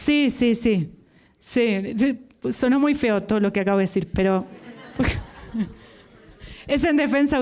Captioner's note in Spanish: risas